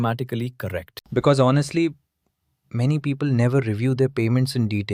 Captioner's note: thoughtful